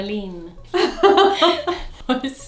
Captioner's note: laughs